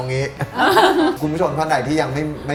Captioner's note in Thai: หัวเราะ